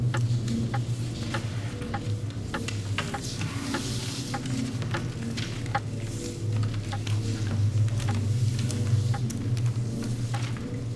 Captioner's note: clock Ticking